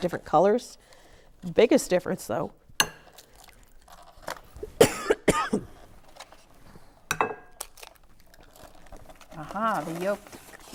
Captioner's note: cracking eggs